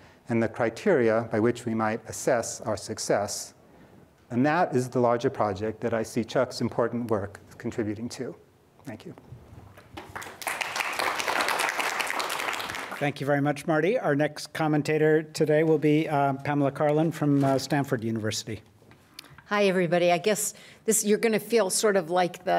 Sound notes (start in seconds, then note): 9.9 applause